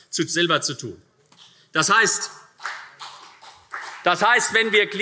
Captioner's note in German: Vereinzelter Beifall CDU